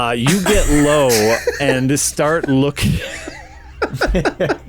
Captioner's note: breaks into laughter